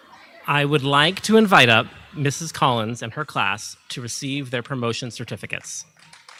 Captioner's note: audience applauding